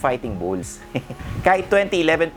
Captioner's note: laughs